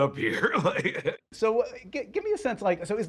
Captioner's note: chuckles